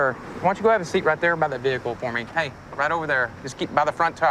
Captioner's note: none